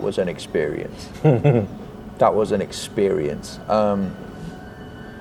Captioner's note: chuckles